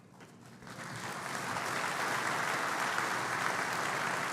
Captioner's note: applause